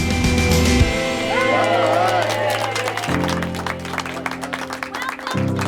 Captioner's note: cheers and applause